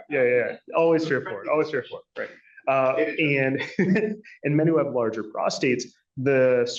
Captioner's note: laughter